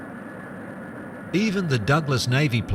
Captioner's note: factory noise